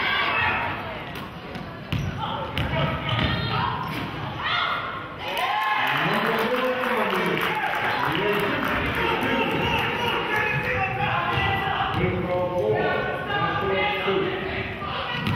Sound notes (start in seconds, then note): 5.2 cheering and clapping; 9.9 murmurs